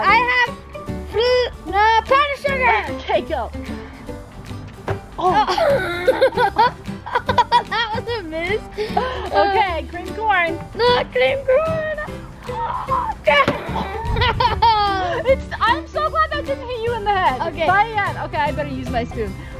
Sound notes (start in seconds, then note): 5.3 laughing; 12.4 laughing